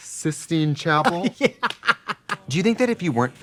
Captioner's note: laughing